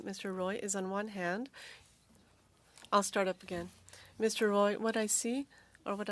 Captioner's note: speaking French